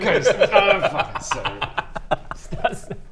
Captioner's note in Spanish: risitas malvadas